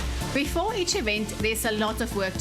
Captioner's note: narrating